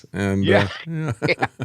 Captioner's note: both Laughing